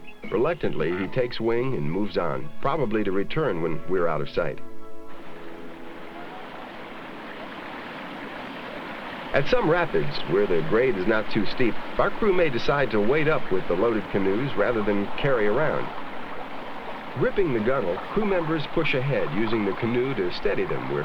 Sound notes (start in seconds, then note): 5.6 sound of rushing water in stream